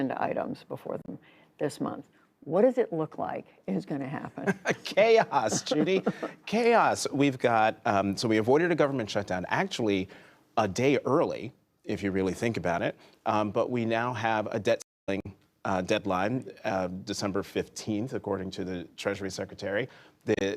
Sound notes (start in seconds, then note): 4.4 laughter